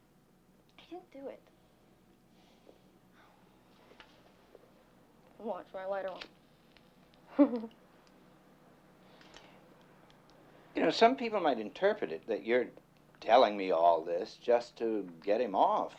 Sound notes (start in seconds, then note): 7.3 giggles